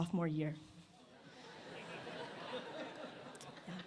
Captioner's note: laughter